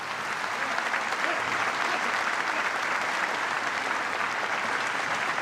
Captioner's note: applause